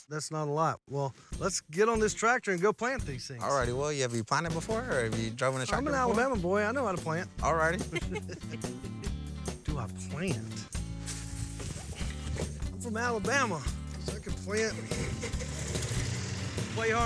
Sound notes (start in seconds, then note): 7.8 giggling